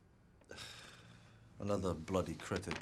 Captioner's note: Gordon sighs; Rob sighs